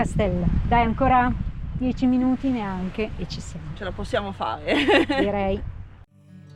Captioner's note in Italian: risate